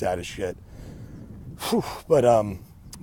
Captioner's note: exhales sharply